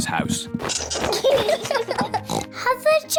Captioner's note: both giggling; oinks